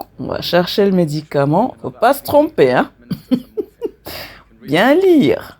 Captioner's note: laughter